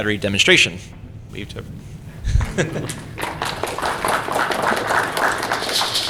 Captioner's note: applause